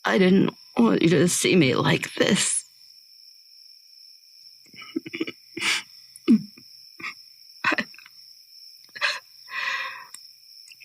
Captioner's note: whimpering, crying